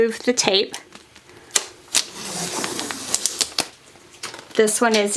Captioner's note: tape rasping